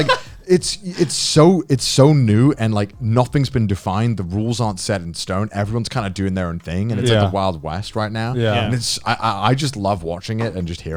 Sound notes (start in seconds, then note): 0.0 Joey laughing; 6.9 affirmative murmuring